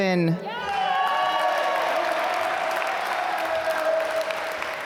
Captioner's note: applause